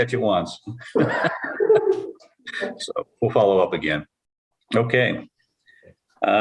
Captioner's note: laughter